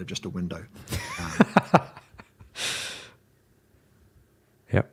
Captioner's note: laughing